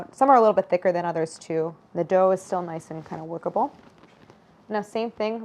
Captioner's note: none